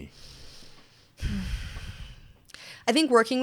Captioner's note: sighs